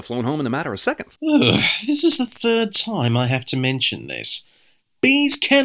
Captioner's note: sigh